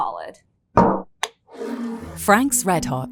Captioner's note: bottle thuds and scrapes